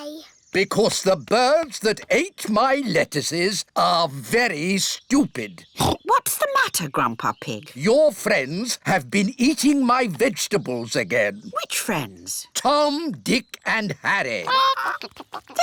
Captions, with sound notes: Because the birds that ate my lettuces are very stupid! -(OINKS) -What's the matter, Grandpa Pig? Your friends have been eating my vegetables again. -Which friends? -Tom, Dick, and Harry.